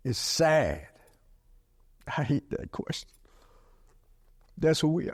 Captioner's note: speaking with great emotion